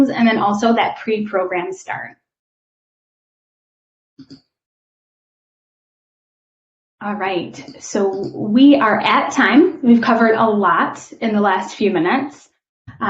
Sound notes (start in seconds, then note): 4.2 keyboard clicking